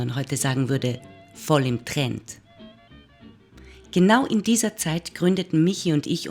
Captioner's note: German speaking continues